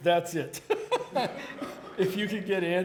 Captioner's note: laughing